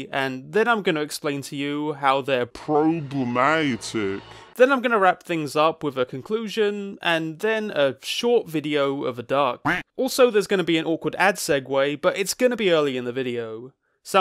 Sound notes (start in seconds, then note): 9.2 duck quacks